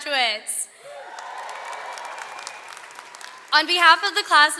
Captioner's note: audience cheers